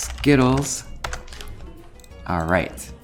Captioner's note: keys tap